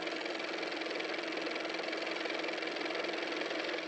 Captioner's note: car motor